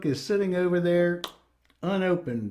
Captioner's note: clap